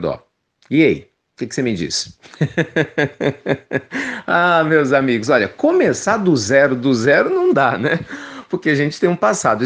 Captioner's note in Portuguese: risos